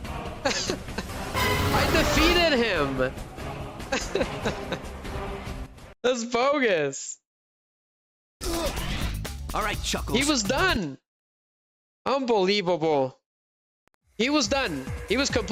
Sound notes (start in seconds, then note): 3.9 laughter